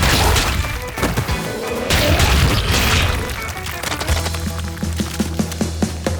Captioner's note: goo splatters; energetic music continues